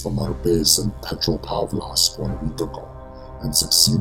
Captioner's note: speaking in a foreign language